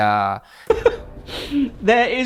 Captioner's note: laughs